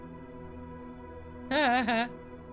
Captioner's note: laughs